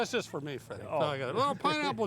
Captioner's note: laughs